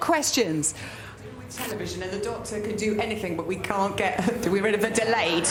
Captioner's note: more feedback looping